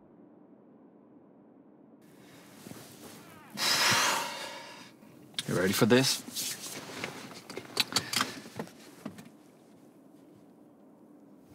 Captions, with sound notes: [exhales] You ready for this? [unbuckles seatbelt]